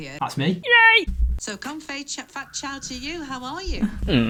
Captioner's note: BBC Interviewer speaks in foreign language